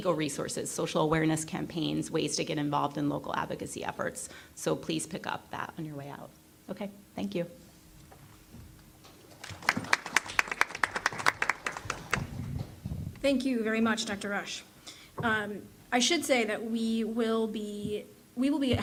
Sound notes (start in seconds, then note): 12.0 applause